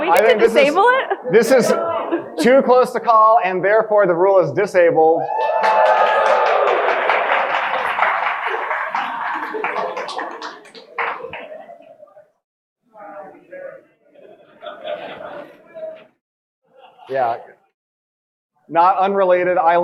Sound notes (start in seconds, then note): 5.2 audience cheering; 11.2 audience indistinctly talking and laughing